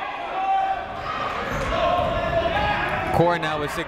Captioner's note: people shouting in the crowd